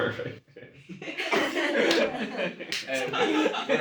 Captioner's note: all laughing